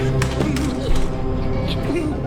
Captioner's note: labored gasping; clattering